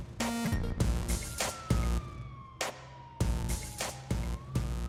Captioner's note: siren wailing